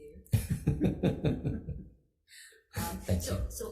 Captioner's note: chuckling